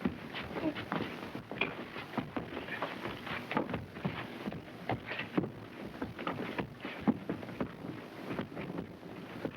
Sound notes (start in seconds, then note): 0.7 men grunting